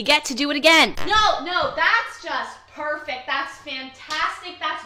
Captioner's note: shouting into the void